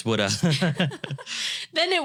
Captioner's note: both laughing